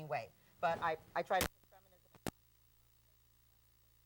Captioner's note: mic trails off